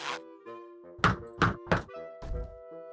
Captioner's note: knocks